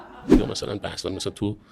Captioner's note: laughter